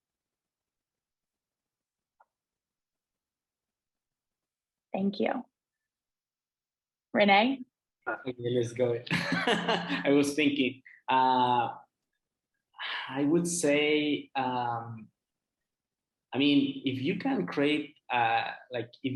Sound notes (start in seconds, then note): 9.1 laughter